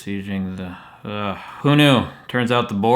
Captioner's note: falling asleep, mumbling; exhales and exclaims